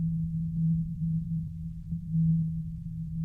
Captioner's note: echoey soundscape